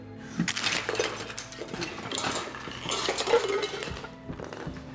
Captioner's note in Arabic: أصوات ارتطام الشموع